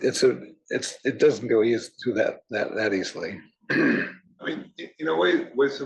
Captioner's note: cough